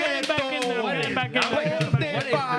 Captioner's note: speaking In Foreign Language